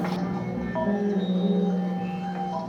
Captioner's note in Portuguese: Sons do filme projetado